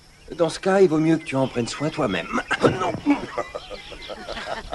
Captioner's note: chuckles